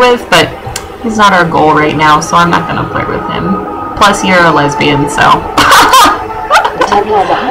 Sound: laughter

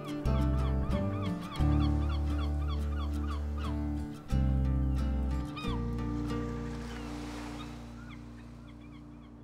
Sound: seagulls, waves

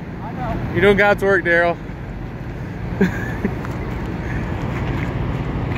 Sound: chuckles

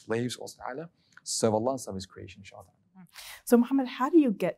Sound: speaking Arabic

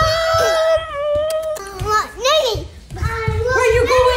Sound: kissing

